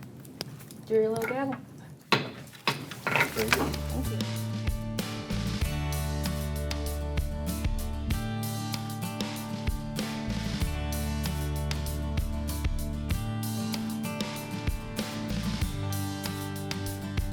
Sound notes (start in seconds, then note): 2.1 bangs gravel; 3.8 bright ambient music